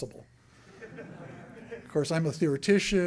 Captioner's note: laughter